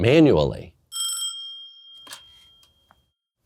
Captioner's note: phone rings